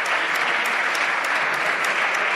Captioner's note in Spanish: Aplausos